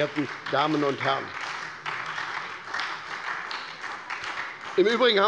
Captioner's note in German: Beifall bei der SPD